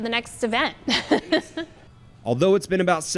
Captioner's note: laughing